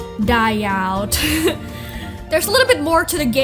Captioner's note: laughs